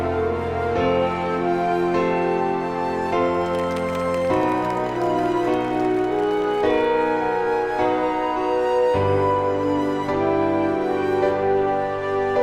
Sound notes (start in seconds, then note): 3.3 faint applauding